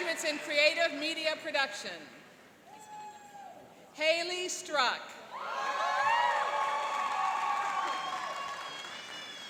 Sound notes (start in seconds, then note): 2.8 cheering; 5.4 cheering and applauding